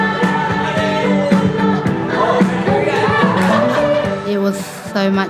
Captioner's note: laughter